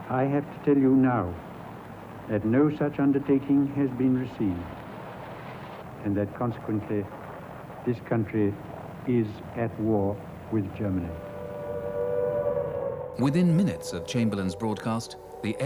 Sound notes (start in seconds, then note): 10.3 air raid siren blares